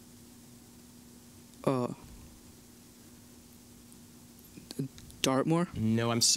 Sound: silence

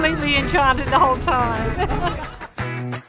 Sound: laughs

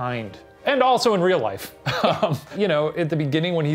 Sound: laughing

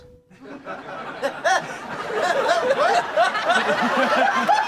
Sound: laughter

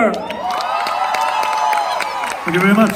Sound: crowd cheers

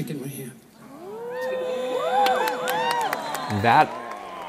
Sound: cheering and applause

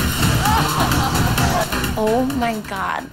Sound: dance music; yelling

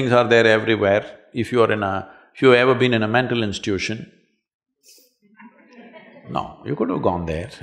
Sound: laughter

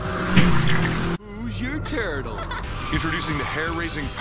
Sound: laughing

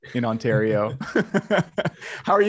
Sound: laughs

